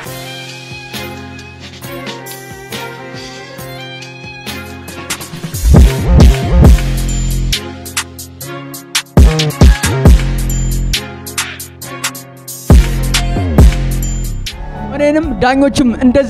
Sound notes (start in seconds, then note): none